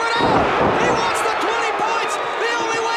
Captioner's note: audience cheers